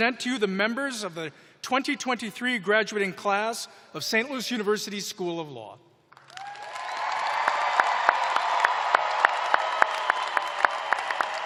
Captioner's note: cheers and applause